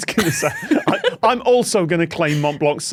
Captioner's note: both laugh